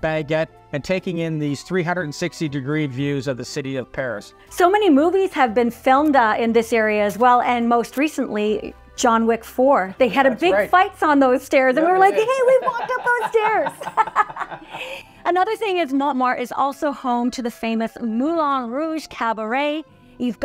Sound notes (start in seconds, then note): 14.1 laugh